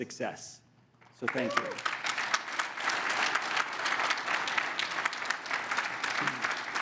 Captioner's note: audience applauding